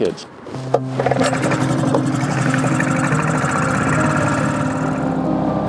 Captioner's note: boat engine revving; somber music